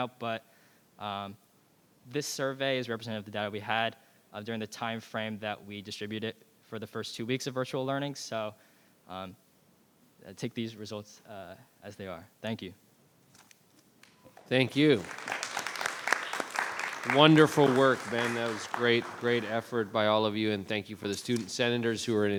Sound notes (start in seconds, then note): 14.4 audience applauds